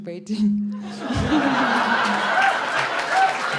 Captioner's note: much laughter and applause